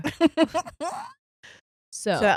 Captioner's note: laughing